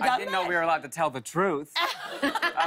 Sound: laughter

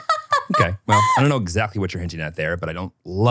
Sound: laughs

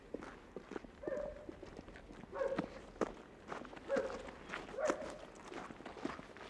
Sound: dogs barking in the distance

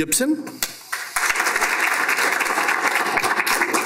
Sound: applause

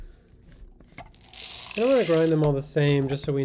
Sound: coffee beans rattling

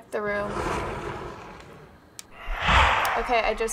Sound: window slides open; ominous whoosh

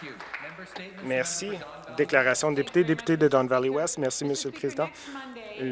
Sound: some Applause

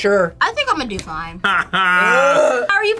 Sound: gags

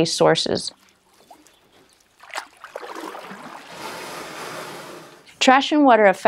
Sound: spash of water

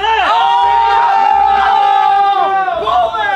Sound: members cheer

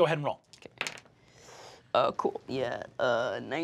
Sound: dice clack

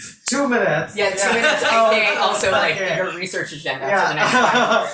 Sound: overlapping chatter

